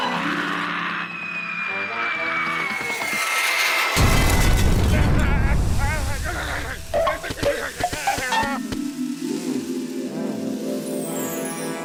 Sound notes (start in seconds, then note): 6.7 groaning